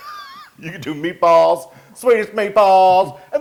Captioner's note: laugh